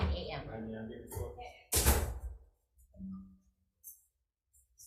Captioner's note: senate members chattering